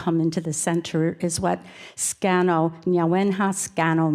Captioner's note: speaks in foreign language